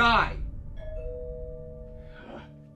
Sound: door bell

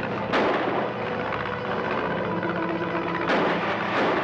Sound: guns banging

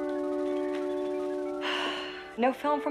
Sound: sighs

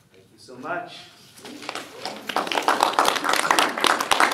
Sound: applause

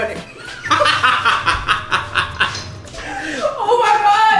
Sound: laughing

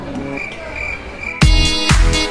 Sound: crickets chirping; bouncy music

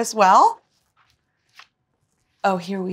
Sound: book page turning

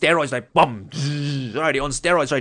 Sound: makes noise with mouth

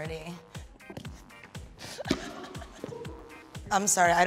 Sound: Awkwafina laughs

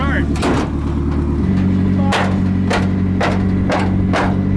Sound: metal clanking

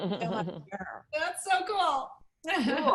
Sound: laughter

